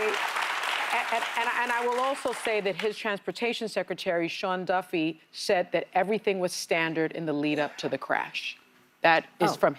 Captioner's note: applause